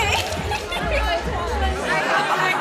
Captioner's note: giggles